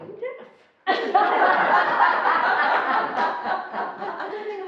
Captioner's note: laughing